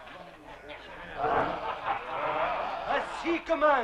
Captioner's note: chieftains laughing